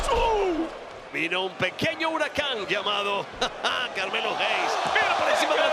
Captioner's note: laugh